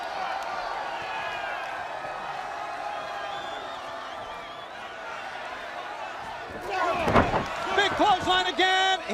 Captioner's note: crowd chatter